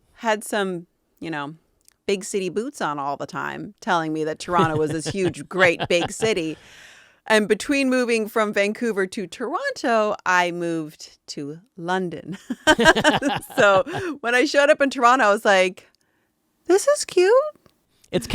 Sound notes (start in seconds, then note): 4.4 laughing; 12.6 laughing